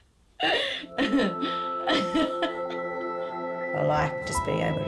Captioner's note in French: rigolant